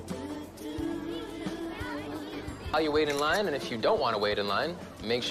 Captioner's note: indistinct crowd chatter